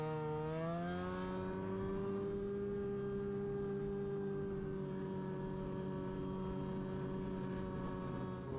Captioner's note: engine humming continues